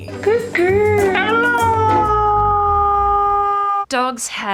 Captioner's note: howls